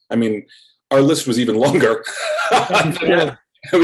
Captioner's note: laughs